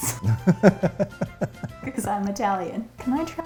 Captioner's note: both laugh